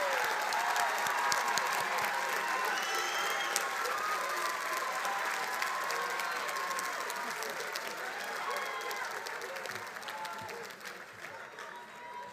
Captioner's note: cheers and applause